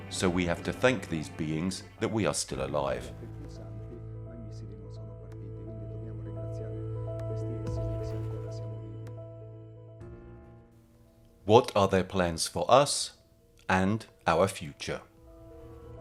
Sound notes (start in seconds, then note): 3.6 gentle music continues; 3.6 speaking in foreign language